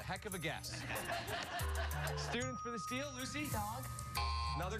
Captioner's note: laughter